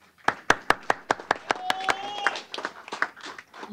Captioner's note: applause